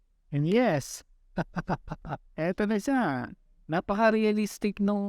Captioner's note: laugh